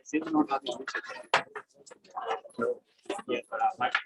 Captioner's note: background chatter